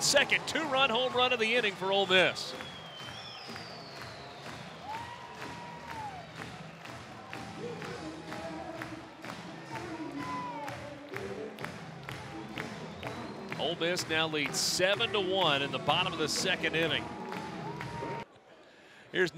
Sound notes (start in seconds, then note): 2.8 crowd cheering and clapping